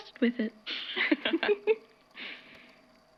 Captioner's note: both laugh